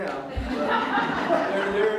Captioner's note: audience Laughter